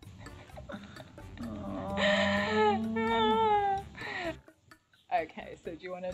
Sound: laughing

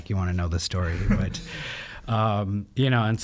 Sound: laughing

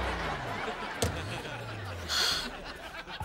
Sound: sighing

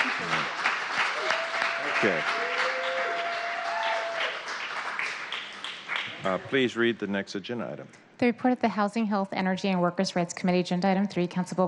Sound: applause

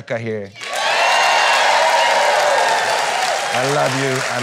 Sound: applause

